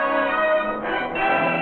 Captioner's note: bell